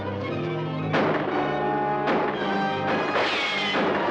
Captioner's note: guns firing